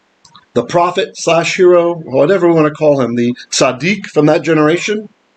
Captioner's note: Hebrew